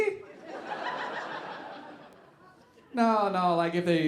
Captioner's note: audience laughing